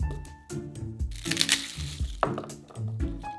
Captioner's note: garlic paper rustling